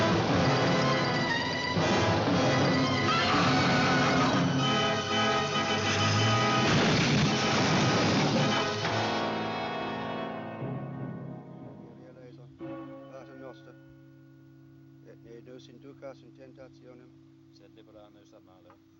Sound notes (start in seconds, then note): 2.7 screams; 13.4 bell Tolling In Distance; 13.4 man Chanting In Latin In Distance